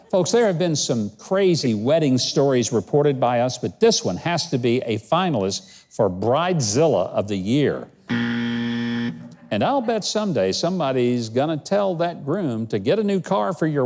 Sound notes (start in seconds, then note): 8.0 buzzer goes off